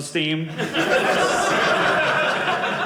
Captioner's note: audience laughing